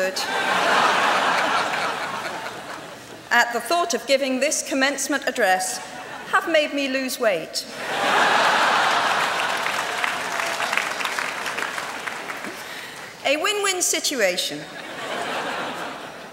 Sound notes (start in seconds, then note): 0.2 laughter; 7.8 laughter; 8.5 applause